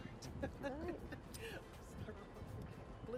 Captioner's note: laughter